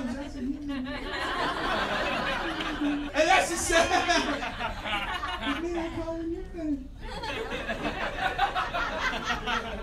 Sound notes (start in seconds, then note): 0.0 audience laughing